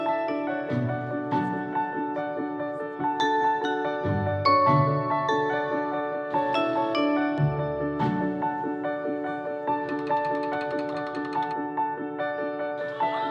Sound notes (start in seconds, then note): 1.6 instructor speaking faintly; 3.1 gentle music; 9.8 machine rattling